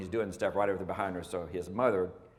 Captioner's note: none